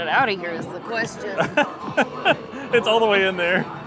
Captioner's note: laughs